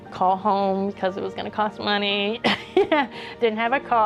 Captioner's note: laughing